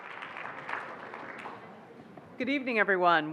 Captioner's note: applauding